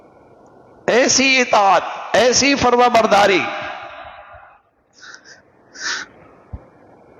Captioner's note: sigh